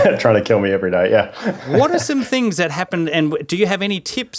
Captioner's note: laughing